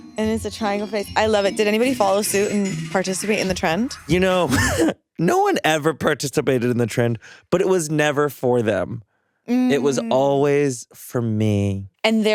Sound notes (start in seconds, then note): 4.1 chuckles